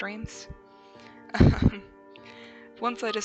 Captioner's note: chuckles